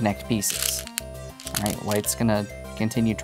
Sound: stones rattling

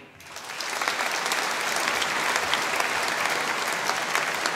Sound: audience applauding

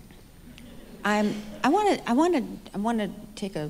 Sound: audience laughing

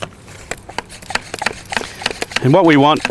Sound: pump, pump, pump

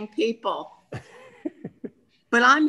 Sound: laughing

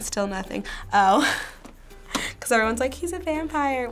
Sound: chuckles

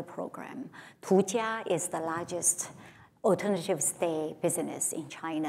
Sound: foreign language

